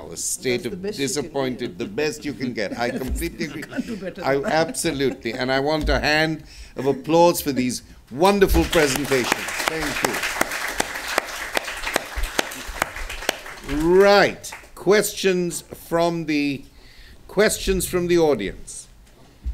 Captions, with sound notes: a state of disappointed, the best you can get. I completely agree. Absolutely. And I want a hand of applause for these wonderful presentations. Thank you. [APPLAUSE] Right. Questions from the audience?